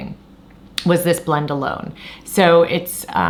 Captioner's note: claps